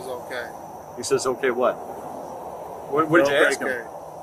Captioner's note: speaking in Spanish